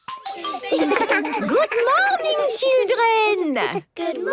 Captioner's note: laughter